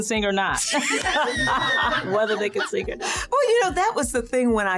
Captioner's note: laughing